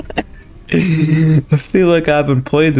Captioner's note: laughs to myself; inhales Oxygen